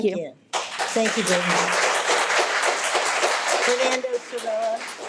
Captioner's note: audience clapping